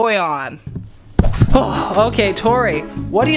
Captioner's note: smack